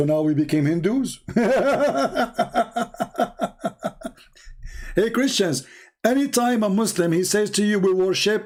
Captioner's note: Ketawa